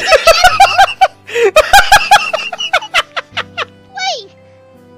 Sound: laughing

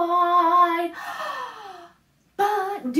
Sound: gasp

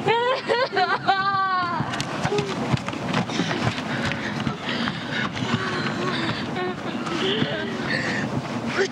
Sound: moaning

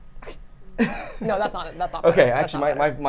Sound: laughs

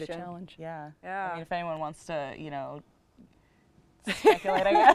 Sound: laughter

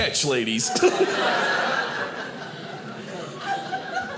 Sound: audience laughing

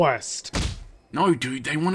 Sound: kick

